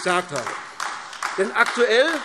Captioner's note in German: Beifall AfD